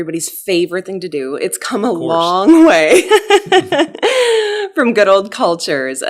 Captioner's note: laughs